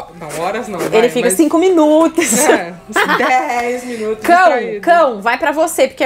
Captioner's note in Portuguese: risos